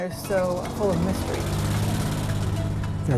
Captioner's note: car motor running